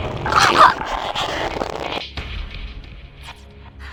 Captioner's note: choke